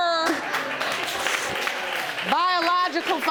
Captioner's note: audience applauding